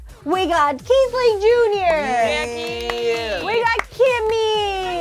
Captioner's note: group cheers